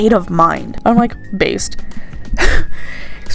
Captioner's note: wheeze